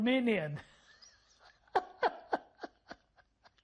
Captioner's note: laughing